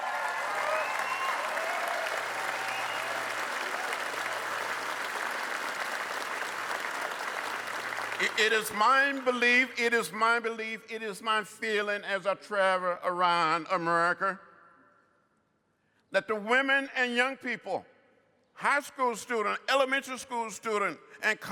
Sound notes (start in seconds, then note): 5.7 cheers & applause